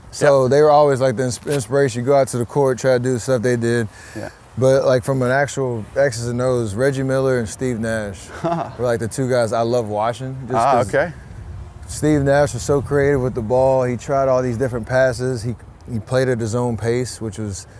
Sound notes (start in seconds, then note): 8.2 laughs